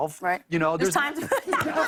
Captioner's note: laughter